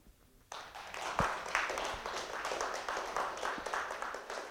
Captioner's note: audience applauds